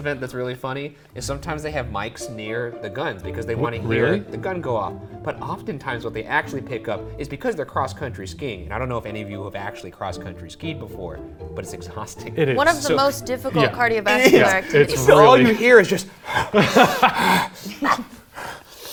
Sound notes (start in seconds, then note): 17.0 pants